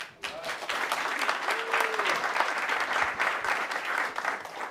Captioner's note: audience applauds